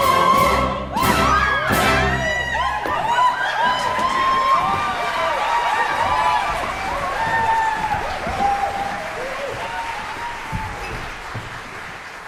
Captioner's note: shouts, screams; applause